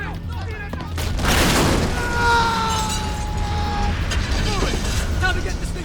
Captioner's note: people scream; explosion booms; man screams